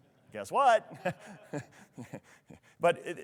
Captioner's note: laughs